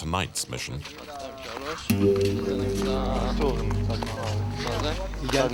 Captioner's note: French spoken audio